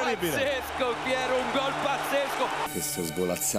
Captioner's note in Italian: Applauso